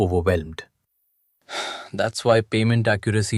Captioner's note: sighs